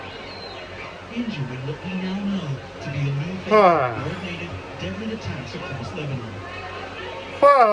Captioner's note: TV plays in background